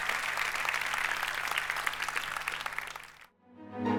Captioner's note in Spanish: Aplausos